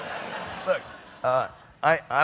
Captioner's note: laughter